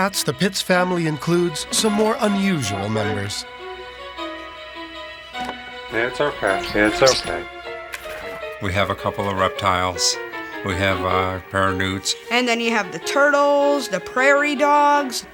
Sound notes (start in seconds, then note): 6.4 chinchilla squeaking